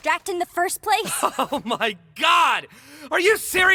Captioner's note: laughs bitterly